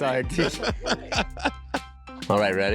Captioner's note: laughing